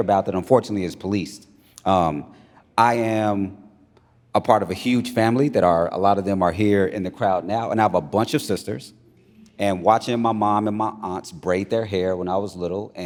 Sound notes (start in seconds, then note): none